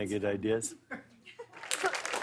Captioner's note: cheers and applause